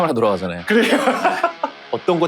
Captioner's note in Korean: 웃음